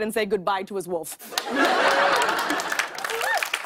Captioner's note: laughter and applause